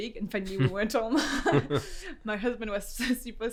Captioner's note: laughs